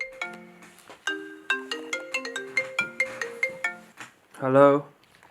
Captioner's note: phone rings